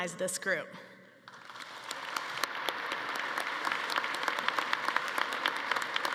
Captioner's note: attendees applauding